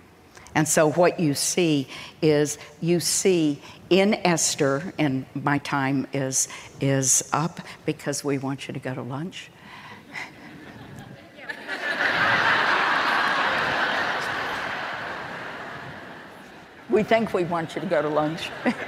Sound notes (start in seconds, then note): 10.1 congregation laughing